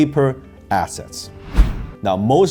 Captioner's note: air whooshing